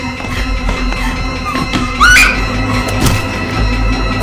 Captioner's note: dramatic music; Hope screaming; dramatic music